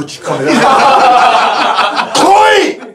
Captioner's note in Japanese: 笑い